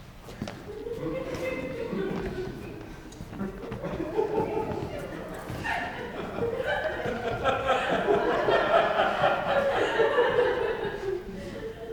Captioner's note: audience laughs